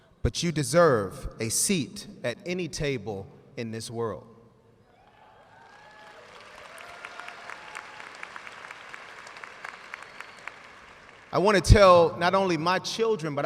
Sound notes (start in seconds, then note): 5.0 audience cheering and applauding